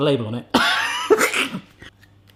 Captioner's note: laughs